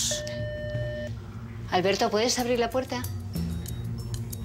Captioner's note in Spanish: Timbre de la puerta